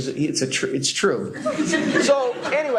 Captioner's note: laughter